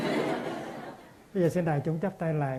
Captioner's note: audience LOL